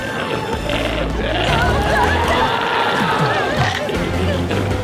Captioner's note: glowzie roars